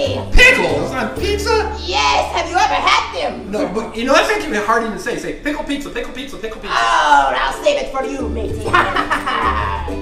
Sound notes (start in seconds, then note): 0.3 voiceover; 4.3 voiceover; 8.6 Hook laughs